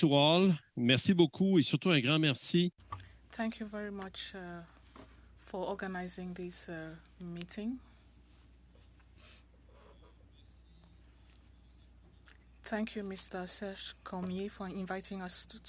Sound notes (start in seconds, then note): 5.5 speaking French